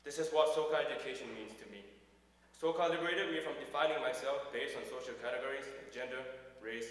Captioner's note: none